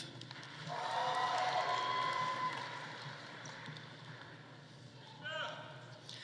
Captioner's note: audience applauding; audience cheering